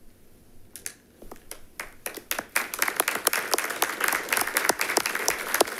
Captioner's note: attendants applauding